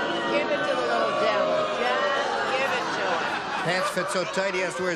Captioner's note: booing